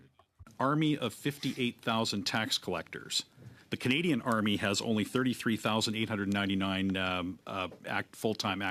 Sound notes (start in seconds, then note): 0.6 speaking French